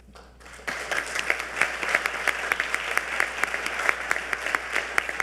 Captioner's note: audience applauding